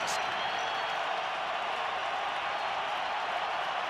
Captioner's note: crowd cheering